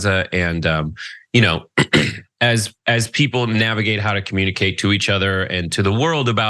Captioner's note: cough